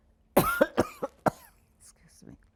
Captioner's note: coughing